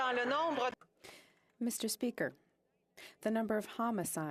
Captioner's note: speaking French